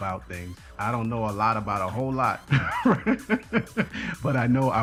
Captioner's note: laughs